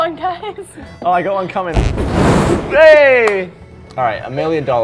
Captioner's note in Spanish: sonido de peo